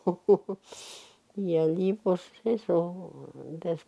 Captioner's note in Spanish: Ríe